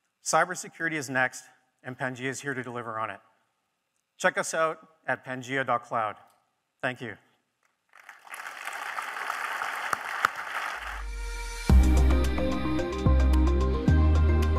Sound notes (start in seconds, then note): 7.9 audience clapping; 11.6 bright music